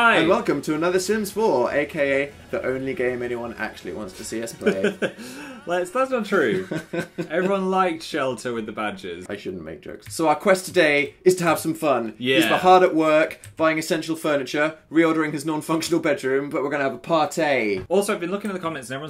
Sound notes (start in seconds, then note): 4.5 laughs